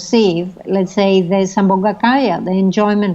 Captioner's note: speaking foreign language